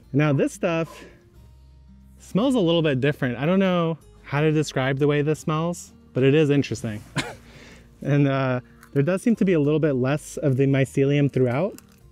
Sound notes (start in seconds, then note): 7.5 chuckles